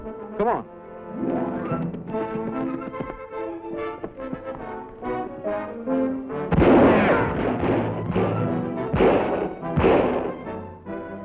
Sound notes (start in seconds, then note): 6.5 guns fire